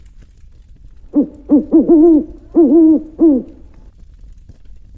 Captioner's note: owl Hooting